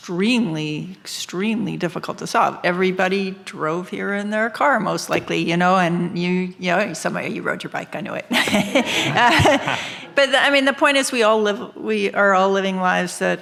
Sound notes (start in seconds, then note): 8.3 laughs; 8.4 audience laughing